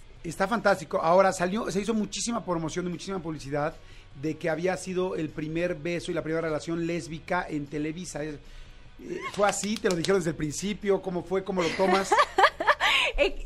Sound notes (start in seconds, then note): 9.1 Macarena claps with excitement